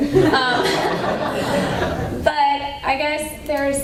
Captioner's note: laughter